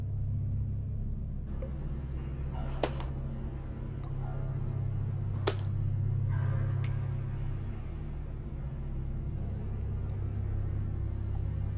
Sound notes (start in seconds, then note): 3.1 glow stick clanks